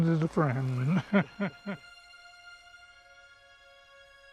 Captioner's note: laughing